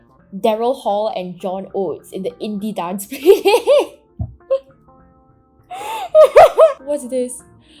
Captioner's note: laughs